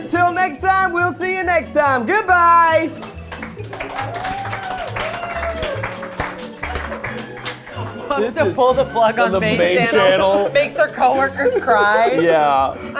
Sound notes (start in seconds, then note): 2.8 crew applauds and cheers